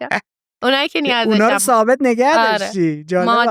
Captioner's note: laughs